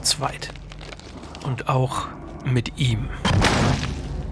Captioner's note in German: Krachen